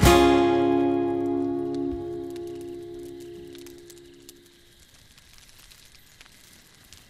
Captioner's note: fire crackling; insects chirping